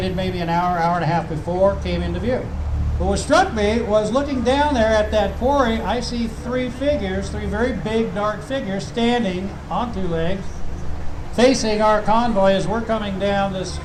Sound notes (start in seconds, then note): none